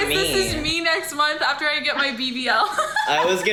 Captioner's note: laughs